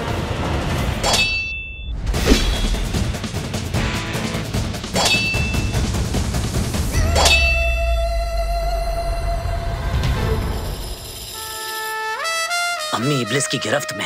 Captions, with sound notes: [swords clank] Iblis has held mother captive.